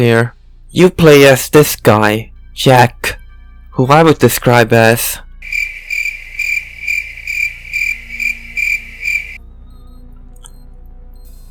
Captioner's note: crickets